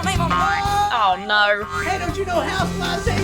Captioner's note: Buddy shouts